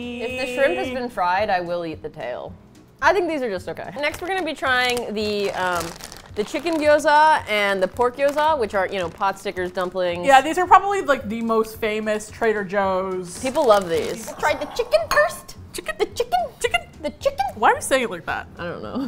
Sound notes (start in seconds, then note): 14.1 high pitched voice; 18.7 laughs